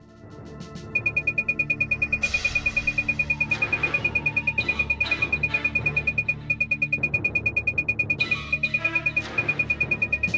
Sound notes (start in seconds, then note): 1.0 computer tones